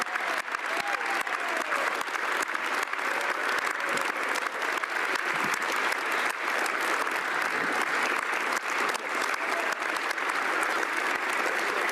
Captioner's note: applause